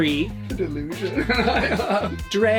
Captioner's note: laughs